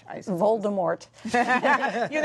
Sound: laughter

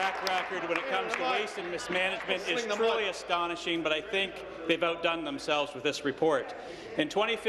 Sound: applause

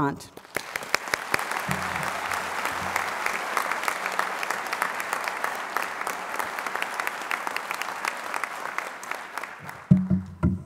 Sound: applause

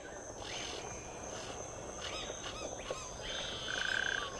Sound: wild forest birds and animals

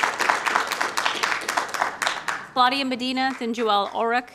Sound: applause

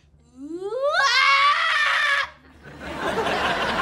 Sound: screaming

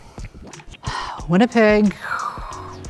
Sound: sighs; blows air

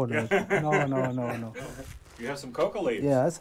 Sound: laughs

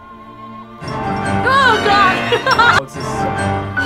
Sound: tense music; laughs; tense music

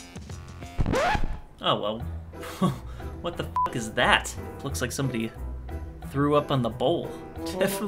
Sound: record scratch

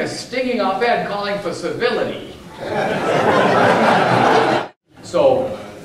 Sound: audience laughter

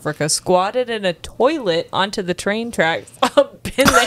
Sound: laughs

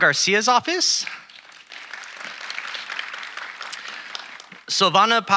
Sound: audience applauding

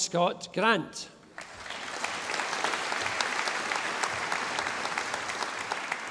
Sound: audience applauding

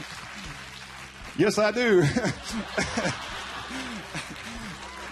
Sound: laughing; audience cheering; lauaughing

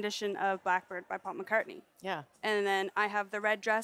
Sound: speaking Indigenous LANGUAGE

